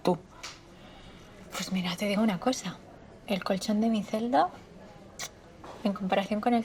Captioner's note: air kiss